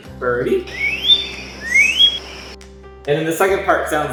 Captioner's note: vocalization plays